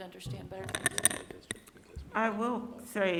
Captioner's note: voice fades off